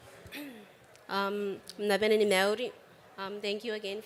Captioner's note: speaks kiribati